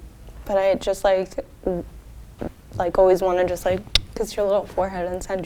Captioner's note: kissing noise